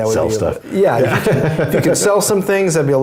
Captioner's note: laugh